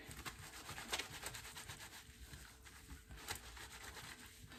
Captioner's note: brisk scrubbing